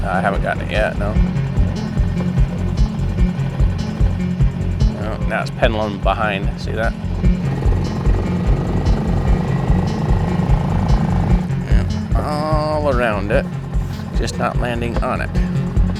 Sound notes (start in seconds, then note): 6.9 engine rumbling; 6.9 suspenseful music